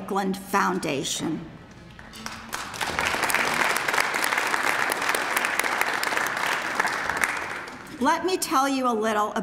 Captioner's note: applause